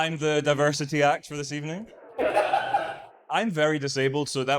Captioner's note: audience laughs